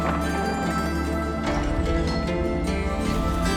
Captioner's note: door clanks